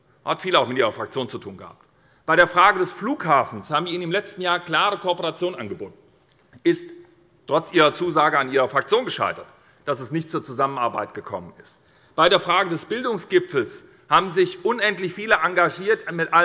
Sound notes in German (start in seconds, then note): none